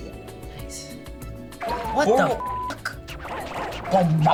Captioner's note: upbeat goofy music; beep